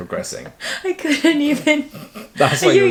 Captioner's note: laughs